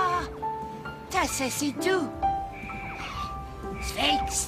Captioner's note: speaking in latvian